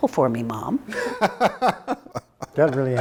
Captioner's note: laughs